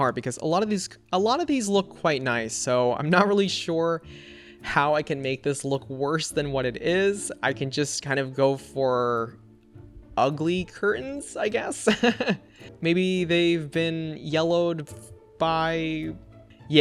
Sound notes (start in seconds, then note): 11.8 laughs